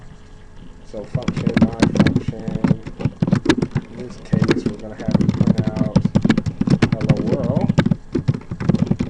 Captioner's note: typing sounds